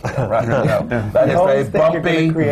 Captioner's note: laughter